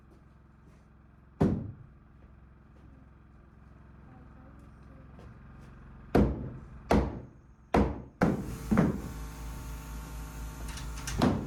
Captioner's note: footsteps